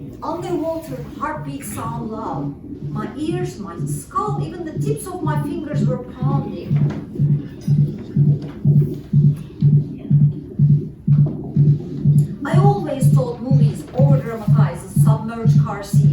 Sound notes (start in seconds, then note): 6.6 pounding